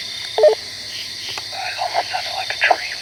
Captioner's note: walkie beeps